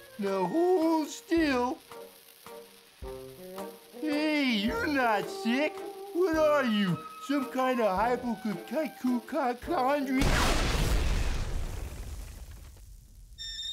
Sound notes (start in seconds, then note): 1.9 fuse hissing; 10.2 explosion booms